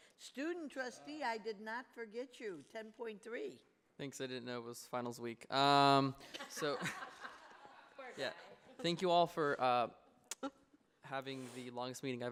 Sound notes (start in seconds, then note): 6.2 laughter